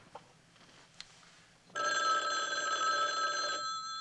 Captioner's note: phone ringing